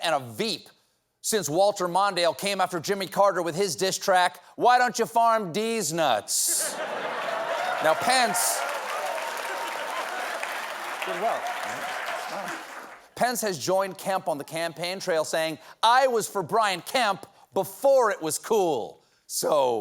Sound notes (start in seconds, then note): 8.7 applause; 8.7 laughter